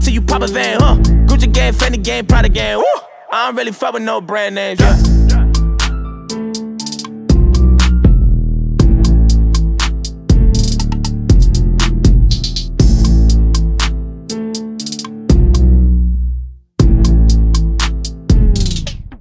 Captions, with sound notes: Hope you niggas suffer til you pop a vein, uh Gucci gang, Fendi gang, Prada gang (woo) I don't really fuck with no brand names, yeah